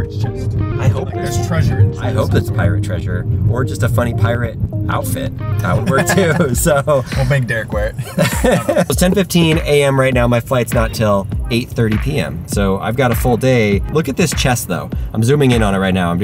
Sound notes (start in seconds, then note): 5.7 both laugh